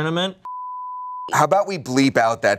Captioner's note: beep